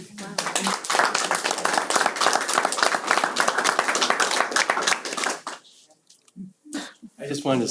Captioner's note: applause